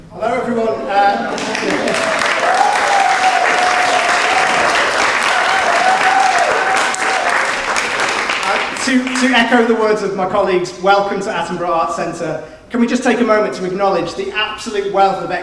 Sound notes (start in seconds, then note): 1.0 audience claps